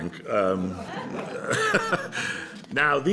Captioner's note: laughter